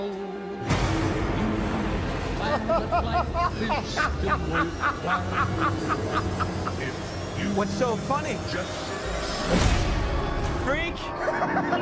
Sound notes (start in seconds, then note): 2.4 laughing; 11.2 laughing